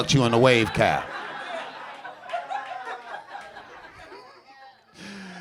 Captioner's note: audience laughing